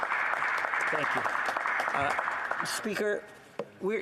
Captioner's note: some Applause